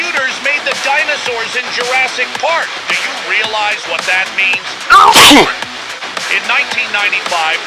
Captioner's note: sneezing